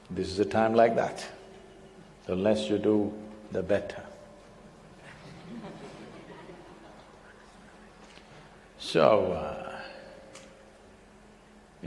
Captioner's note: few laugh